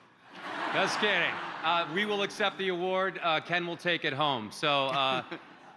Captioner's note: cheers and applause